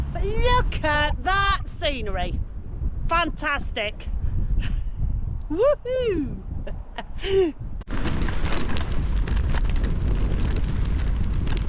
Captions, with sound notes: But look at that scenery. Fantastic. Woohoo! [Tyres on Gravel]